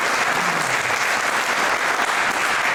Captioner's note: applause